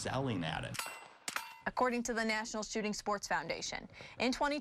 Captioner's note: gun fire